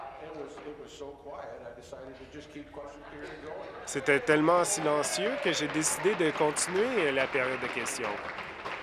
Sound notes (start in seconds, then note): 4.1 conversation din; 8.1 applause